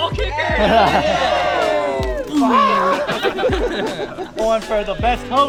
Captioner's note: crowd chattering loudly